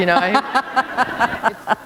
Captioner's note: laughter